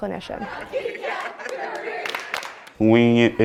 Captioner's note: laughter